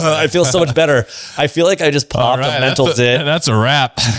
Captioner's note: laughs